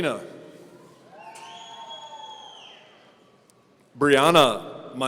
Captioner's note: audience cheering